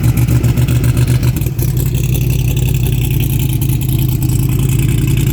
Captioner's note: car running